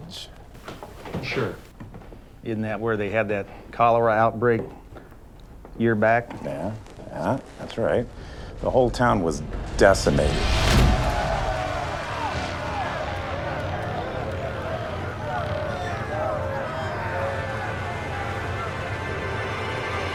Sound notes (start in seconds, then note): 10.5 wailing